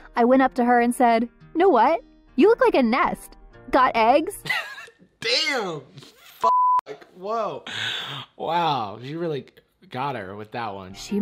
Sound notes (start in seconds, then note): 6.4 beep